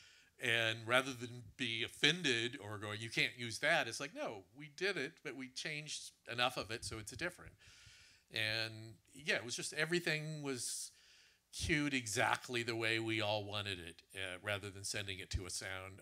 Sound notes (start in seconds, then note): none